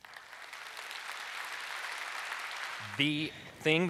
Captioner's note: audience applauds